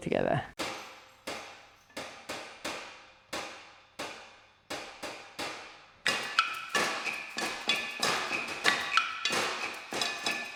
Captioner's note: rhythmic hitting of objects